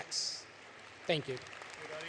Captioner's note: applause